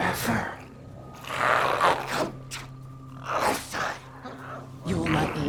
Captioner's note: growls